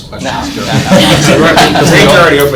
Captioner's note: laughing